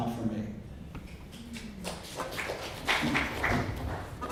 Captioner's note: clapping